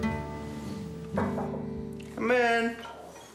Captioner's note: knock at door